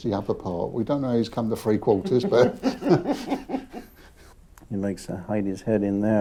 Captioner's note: laughs